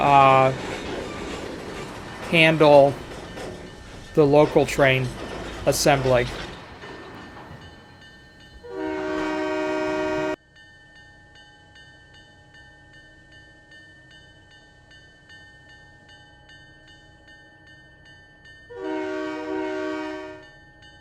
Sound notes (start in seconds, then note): 5.8 train whistle